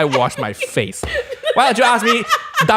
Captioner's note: continues laughing